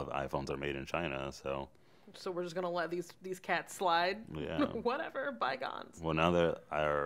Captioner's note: chuckles